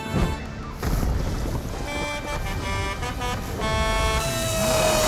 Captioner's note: honking